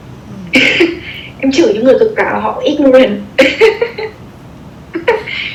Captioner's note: laugh